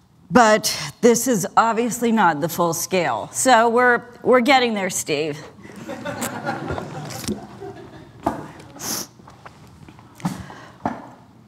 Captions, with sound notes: But this is obviously not the full scale. So we're getting there, Steve. [LAUGHTER]